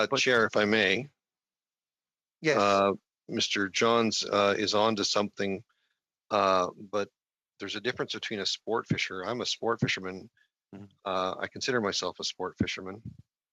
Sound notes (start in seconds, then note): 2.7 speaking FRENCH